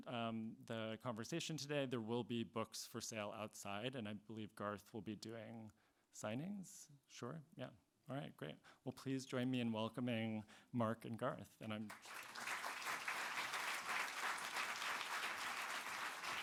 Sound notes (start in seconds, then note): 11.8 audience clapping